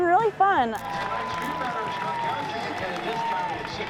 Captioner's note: cheers, pa announcement